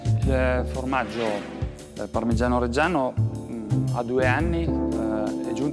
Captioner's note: speaks italian